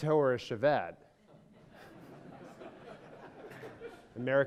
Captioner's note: audience laughter